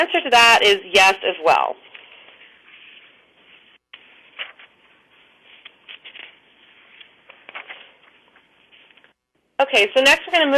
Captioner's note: pause